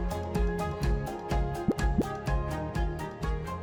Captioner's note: graphic pops